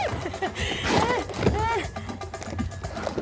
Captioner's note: laughing